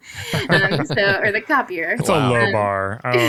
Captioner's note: laughing